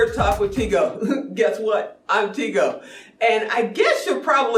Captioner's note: chuckles